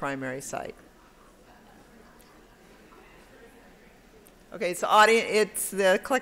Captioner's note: background Conversation